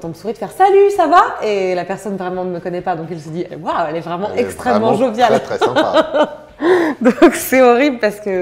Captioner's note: laughs